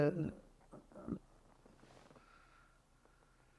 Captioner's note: pauses 6 seconds